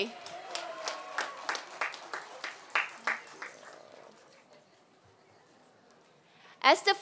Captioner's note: applause